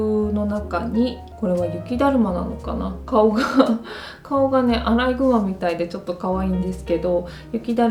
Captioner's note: laughter